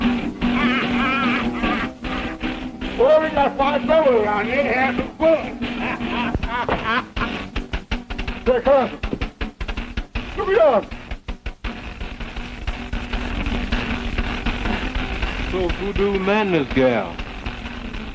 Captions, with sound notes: Oh, we've got fine fellows, have same fun. (Mose laughing) Say, cousin, look beyond. - It's old voodoo Mandy's girl.